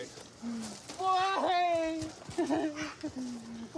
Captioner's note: sobs